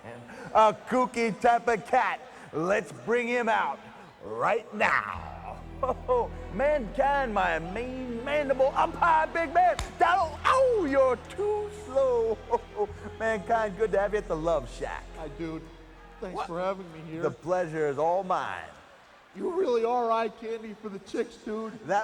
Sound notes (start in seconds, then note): 12.5 laughs